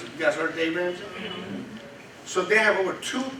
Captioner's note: crowd murmurs assent